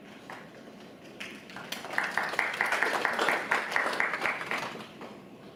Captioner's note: audience applauds